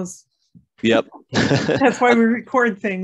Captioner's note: laughs